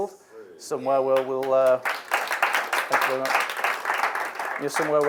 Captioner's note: audience applauds